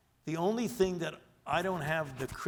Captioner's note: none